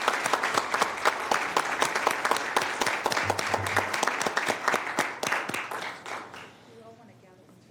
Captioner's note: applause